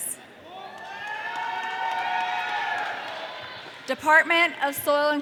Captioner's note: audience cheering